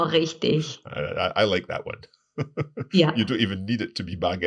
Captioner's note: laughing